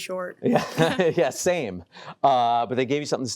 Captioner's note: chuckling